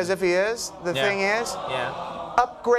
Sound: crowd groaning

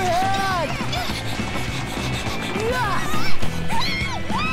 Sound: panting; shouting

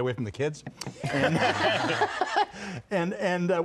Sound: laughter

